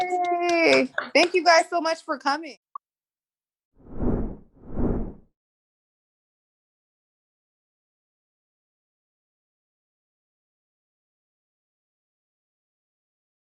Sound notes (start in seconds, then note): 4.6 wind whipping